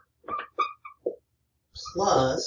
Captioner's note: marker squeaking